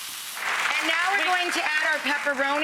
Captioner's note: audience applauds